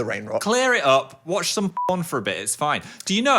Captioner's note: beep